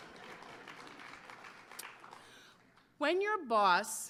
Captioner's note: applause